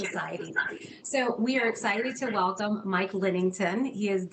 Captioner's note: echo